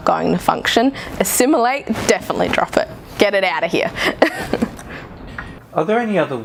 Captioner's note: laughs